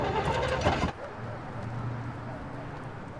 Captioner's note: sputtering continues